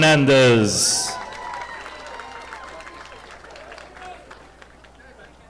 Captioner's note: audience applauding